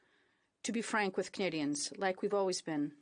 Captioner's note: speaking in French